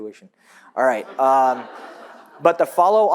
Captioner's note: audience laughs